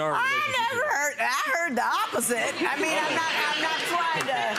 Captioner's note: laughing